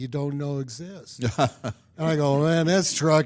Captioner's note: laughs